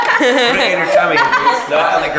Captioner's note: laughter